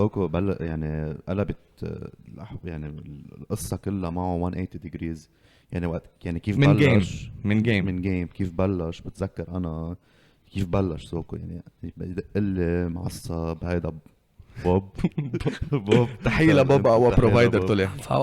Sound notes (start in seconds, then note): 15.0 laughs